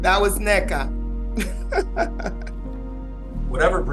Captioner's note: laughing